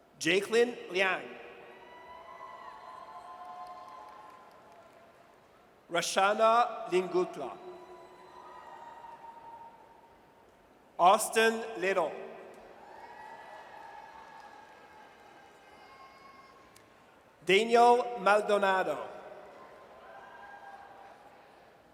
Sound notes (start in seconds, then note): 1.7 audience cheers; 7.7 audience cheers; 12.8 audience cheers; 19.4 audience cheers